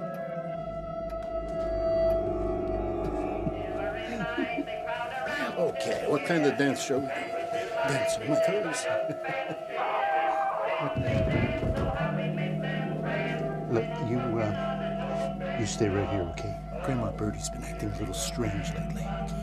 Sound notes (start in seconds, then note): 9.4 distant screaming; 11.0 thudding